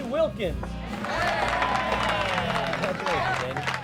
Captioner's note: crowd cheering